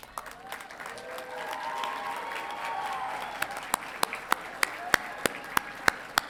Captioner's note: audience applauding and cheering